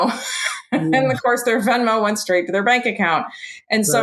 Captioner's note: laughs